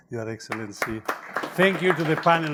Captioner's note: all clapping